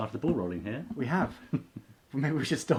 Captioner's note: laughs